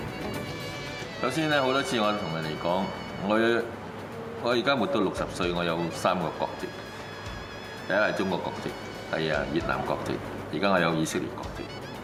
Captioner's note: in Cantonese